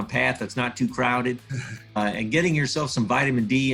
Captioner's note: chuckles